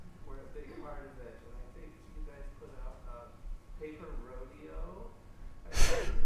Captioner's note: audience member speaking